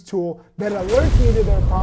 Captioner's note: logo explodes